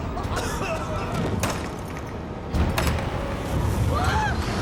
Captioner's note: coughing